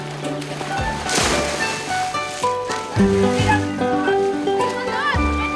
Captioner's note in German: Es platscht, Musik